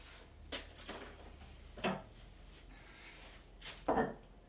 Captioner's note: knock